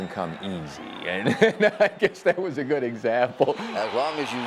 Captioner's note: laughing